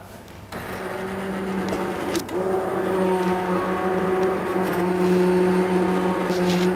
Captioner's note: machine whirring